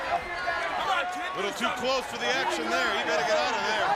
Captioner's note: crowd chatter